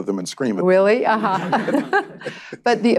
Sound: laughter

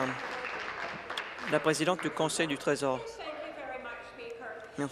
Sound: applause

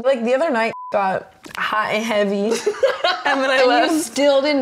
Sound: beep

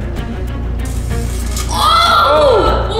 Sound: electricity crackles

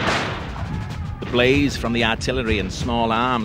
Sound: new England accent

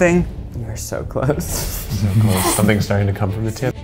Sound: laughs

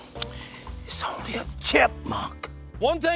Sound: whispering

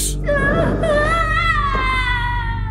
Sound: Sam screaming

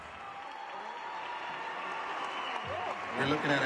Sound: audience applauding

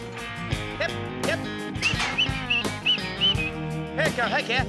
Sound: whistling

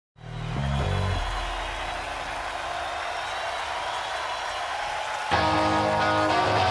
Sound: audience cheers; bass guitar music

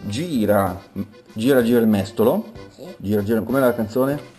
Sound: italian singsong

